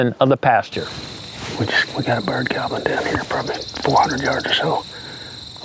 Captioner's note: whispering